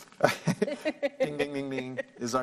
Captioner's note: laughs